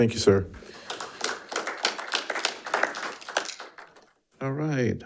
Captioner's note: audience applauding